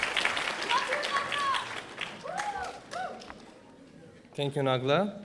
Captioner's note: audience cheering